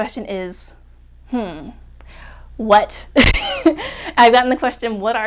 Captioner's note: laughs